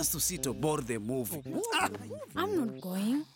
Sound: indistinct chatter

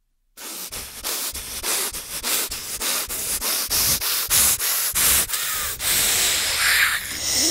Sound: frustrated breathing

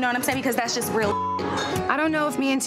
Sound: beep

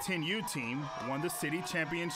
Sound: applause

